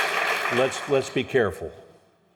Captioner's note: applause